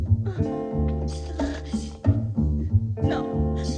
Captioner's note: whimpering